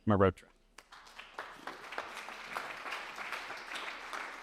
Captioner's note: applause